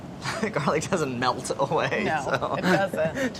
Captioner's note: laughs